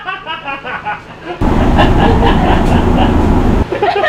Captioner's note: laughing loudly